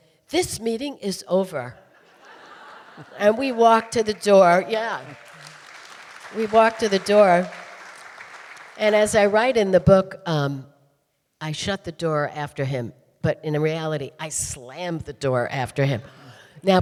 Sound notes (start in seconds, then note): 4.6 audience applauding